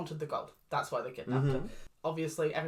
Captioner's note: understanding noises